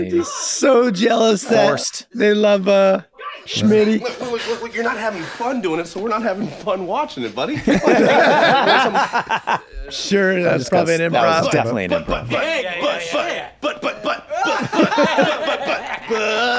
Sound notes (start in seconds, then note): 7.6 everyone laughs